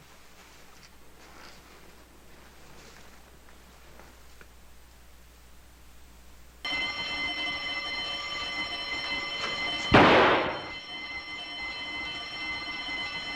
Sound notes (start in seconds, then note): 6.6 alarm ringing; 9.9 gunshot